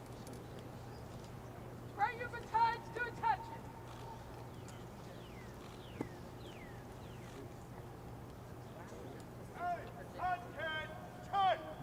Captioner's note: shouted commands